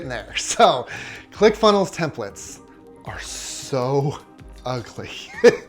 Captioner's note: laughs